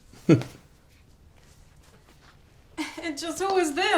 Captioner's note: chuckles